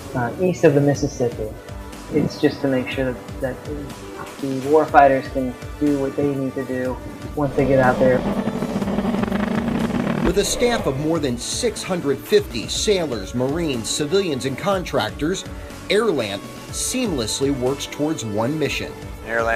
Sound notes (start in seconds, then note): 7.4 jet engine roars